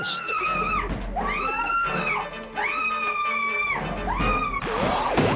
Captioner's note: catcher screaming